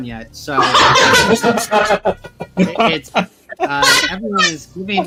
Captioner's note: laughing